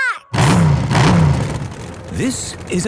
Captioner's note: engines revving